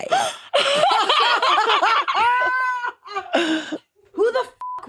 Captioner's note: participants laughing; beep